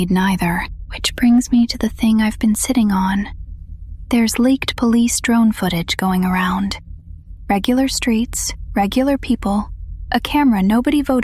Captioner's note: whispers